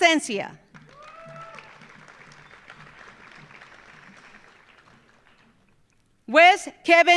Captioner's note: audience applauding; audience cheering